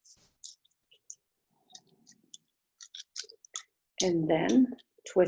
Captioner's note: silence